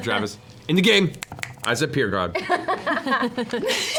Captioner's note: snaps fingers; laughter